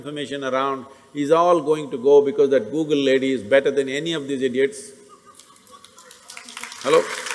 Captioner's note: laughter; laughter/Applause